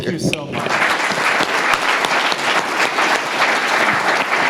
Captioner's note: audience applauds